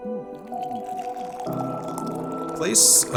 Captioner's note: coffee pouring